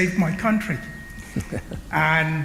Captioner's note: laughter